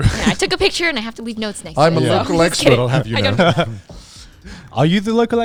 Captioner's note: laughs